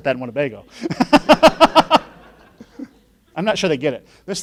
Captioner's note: laughing